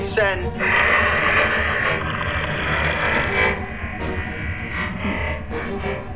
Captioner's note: static crackling; static hissing; tense music